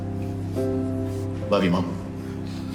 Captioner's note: sighs